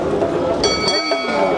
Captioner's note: bell ringing